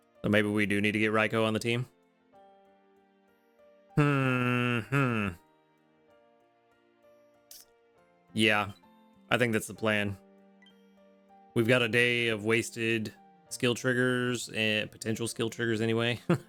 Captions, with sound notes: Maybe we do need to get Raiko on the team. (sighs) Yeah, I think that's the plan. We've got a day of wasted skill triggers and potential skill triggers anyway.